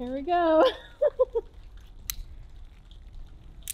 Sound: laughs

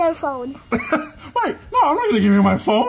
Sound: laughs

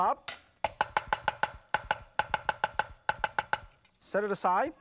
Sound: sharp tapping

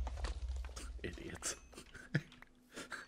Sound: snickers

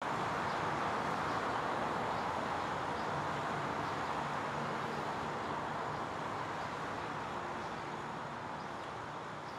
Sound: urban noises

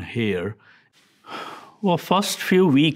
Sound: sighing

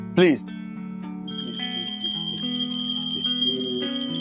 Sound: bell rings

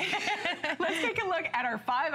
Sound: laughter

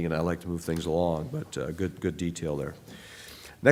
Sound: none

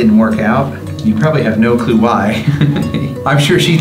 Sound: laughs

